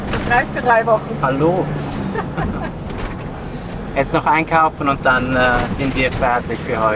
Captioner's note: laughs